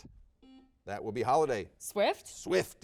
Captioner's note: buzzer dings